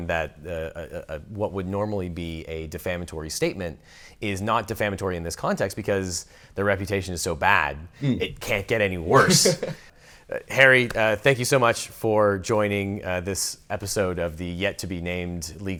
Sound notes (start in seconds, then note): 9.1 laughs